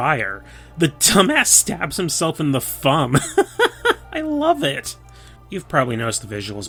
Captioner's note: laugh